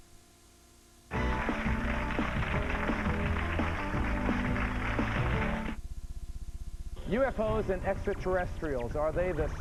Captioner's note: applause